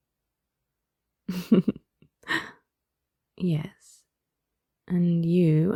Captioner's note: laughs